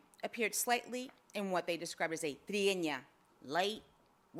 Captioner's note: speaks foreign language